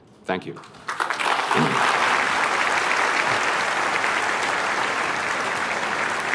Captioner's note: applause